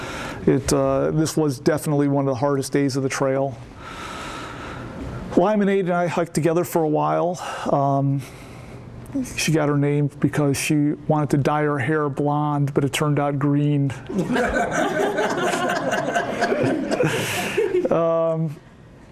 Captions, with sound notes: This was definitely one of the hardest days of the trail. Limeonaid and I hiked together for a while. She got her name because she wanted to dye her hair blonde but it turned out green. (laughter)